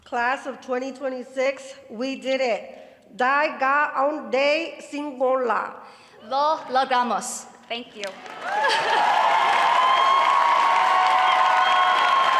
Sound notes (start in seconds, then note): 3.2 speaking Cebuano; 9.6 applause